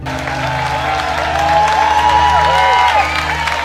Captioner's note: audience cheering